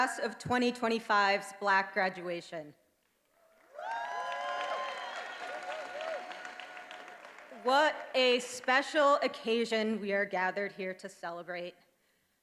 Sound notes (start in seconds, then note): 3.4 attendees applauding and cheering